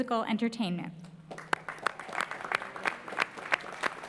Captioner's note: applause